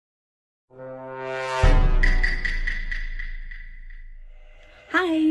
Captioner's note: Sound Effect - Among Us role reveal sound